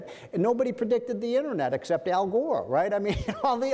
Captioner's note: laughs